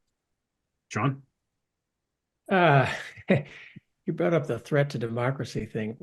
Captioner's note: laugh